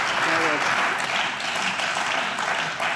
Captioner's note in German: Beifall